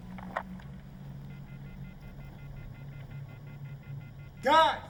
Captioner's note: dialtone buzzing